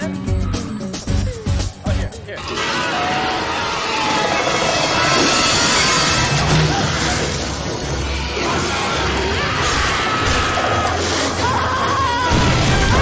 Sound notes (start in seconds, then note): 2.3 centipede growls; 2.4 screaming; 9.3 frantic screaming